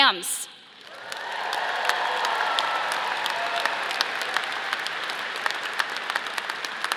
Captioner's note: audience applauding; audience cheering